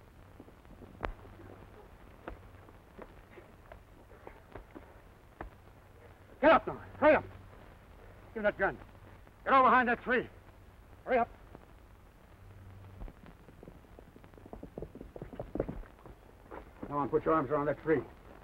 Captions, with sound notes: - Get up now! Hurry up! Gimme that gun. Get over behind that tree. Hurry up. (horse hooves clomping) Go on, put your arms around that tree.